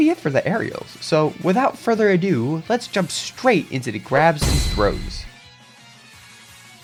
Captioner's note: gears Clinks